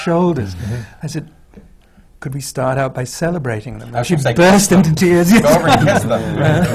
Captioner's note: laughter